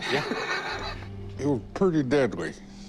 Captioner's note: laughs